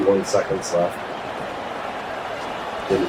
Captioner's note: crowd Noises